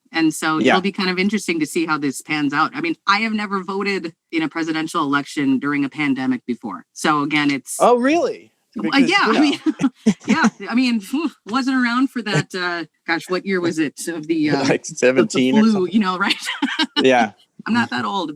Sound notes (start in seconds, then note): 8.8 laughs